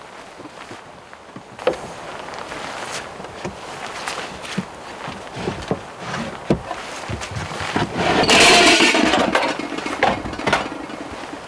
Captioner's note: opening car trunk